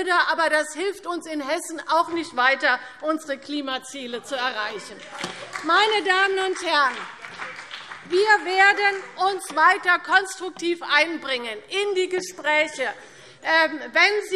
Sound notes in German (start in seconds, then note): 4.8 Beifall BÜNDNIS 90/DIE GRÜNEN und vereinzelt CDU - Zurufe